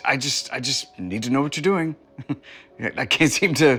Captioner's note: laughs